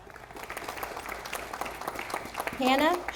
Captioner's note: audience applauding